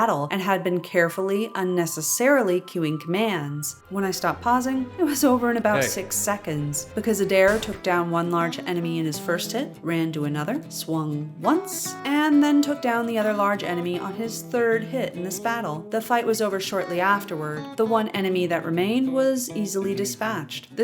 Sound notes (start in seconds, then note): 7.4 clunk